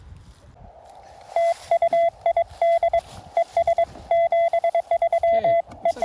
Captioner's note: background Morse code